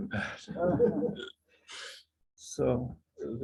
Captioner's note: laughter